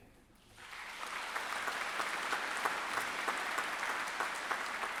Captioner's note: audience applauding